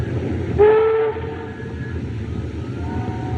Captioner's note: ship's Horn Blows